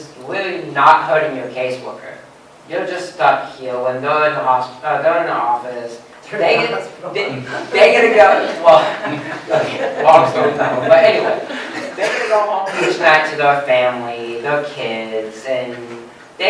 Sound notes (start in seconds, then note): 6.1 laughing; 8.8 laughter